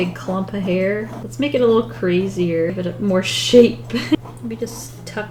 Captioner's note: laughs